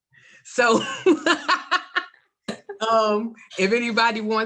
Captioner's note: laughter